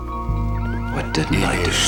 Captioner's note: car alarm blaring